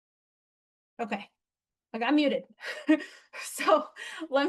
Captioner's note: laughs